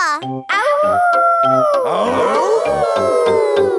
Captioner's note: all howling; howling